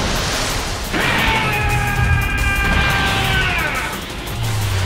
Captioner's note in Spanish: Gritos